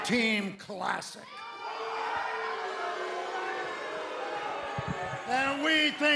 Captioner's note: crowd cheering